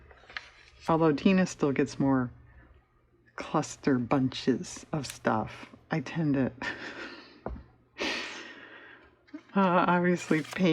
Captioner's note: laughs